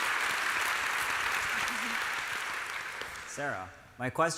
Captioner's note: applause